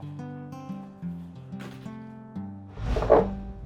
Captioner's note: door closes